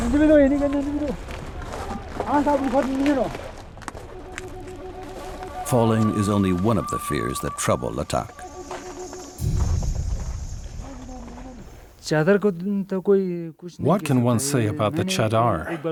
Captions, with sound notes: (speaking foreign language) Falling is only one of the fears that trouble Latak. (speaking foreign language) -: What can one say about that Chadar?